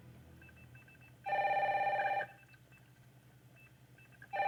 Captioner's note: phone rings